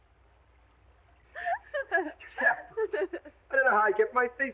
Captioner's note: Ettie giggling